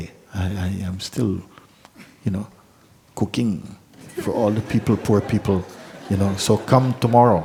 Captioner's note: laughter